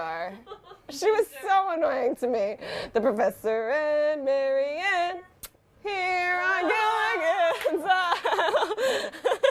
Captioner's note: kiss